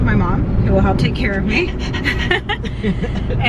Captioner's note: laughs